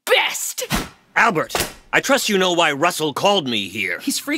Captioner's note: swish sound, cross-cutting back to office